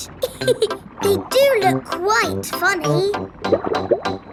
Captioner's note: laughs